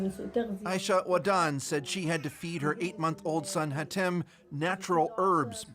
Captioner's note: speaking Alternate Language